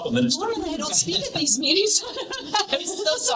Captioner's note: laughing